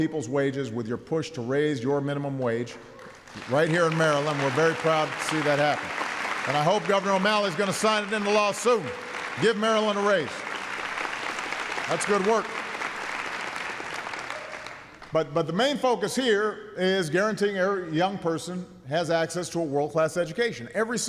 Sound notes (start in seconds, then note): 3.9 applause; 10.6 applause